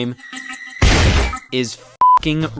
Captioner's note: explosion blasting; beep